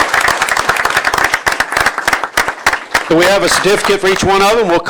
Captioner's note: applause